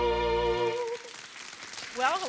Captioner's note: audience clapping